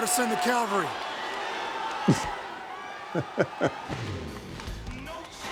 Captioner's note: laugh